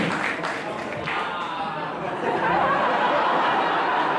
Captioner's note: audience laughs